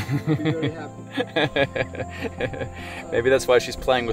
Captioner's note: laughs